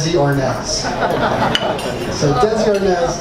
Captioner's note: audience laughs